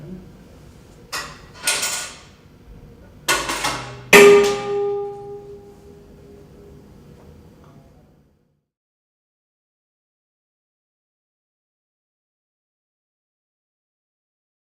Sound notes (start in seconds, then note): 3.3 metal banging